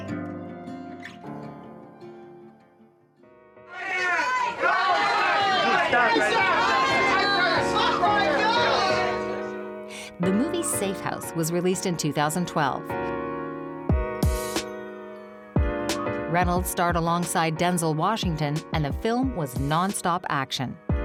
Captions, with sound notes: (reporters clamoring) The movie "Safe House" was released in 2012. (upbeat music) Reynolds starred alongside Denzel Washington and the film was nonstop action.